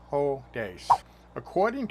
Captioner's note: swipe sound